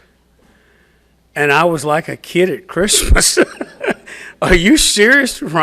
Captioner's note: laughs